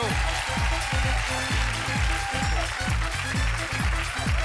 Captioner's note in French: applaudissements